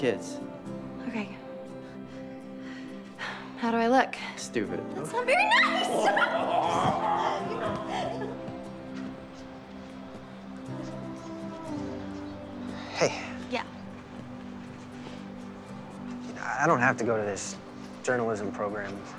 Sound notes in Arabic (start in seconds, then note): 5.4 يضحك